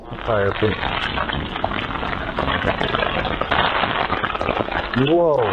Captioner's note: تشویق حضار